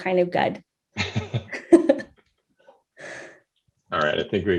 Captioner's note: laughs